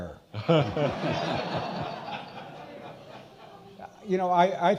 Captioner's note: all laughing